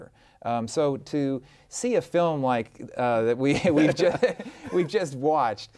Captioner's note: both laughing